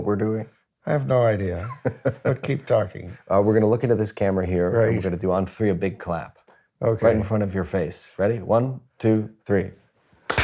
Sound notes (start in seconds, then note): 3.3 laughter